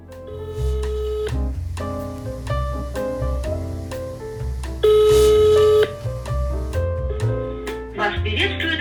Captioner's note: dial tone